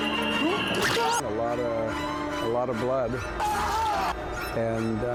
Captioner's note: screams